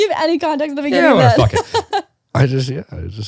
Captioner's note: laughing